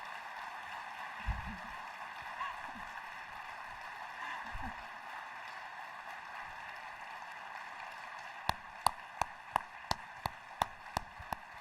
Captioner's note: applause